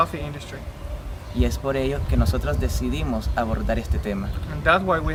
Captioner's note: speaking spanish